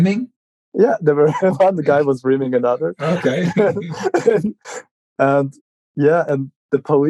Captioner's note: laughing